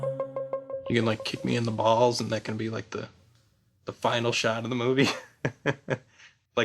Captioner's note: laughs